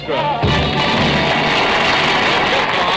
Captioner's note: applause